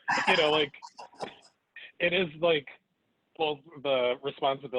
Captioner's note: laughing